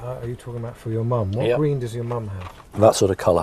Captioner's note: voiceover